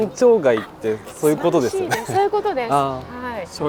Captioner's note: laughs